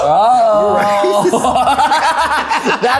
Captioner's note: everyone laughing